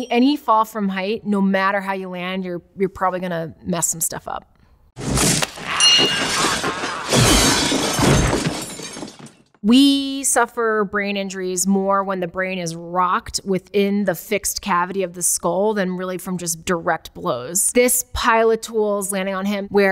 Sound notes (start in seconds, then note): 5.7 wrenches clatter; 5.8 bell dings